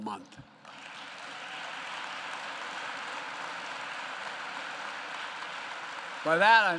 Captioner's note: applause